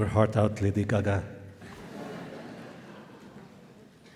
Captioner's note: laughter